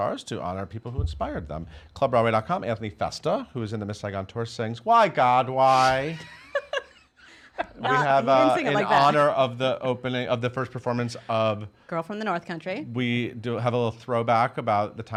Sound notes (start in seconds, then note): 5.6 laughs